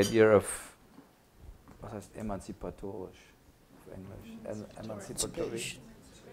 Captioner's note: non-english speech